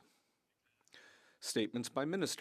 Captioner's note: speaking French